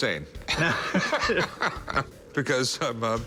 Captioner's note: laughter